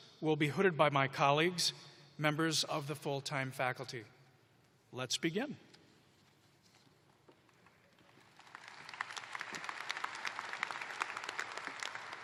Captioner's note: applause